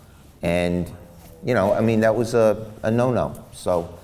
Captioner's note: none